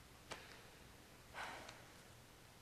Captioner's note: sighs